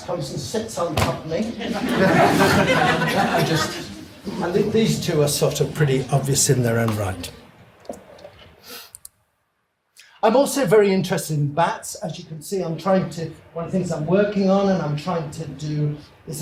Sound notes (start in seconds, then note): 1.5 audience laughs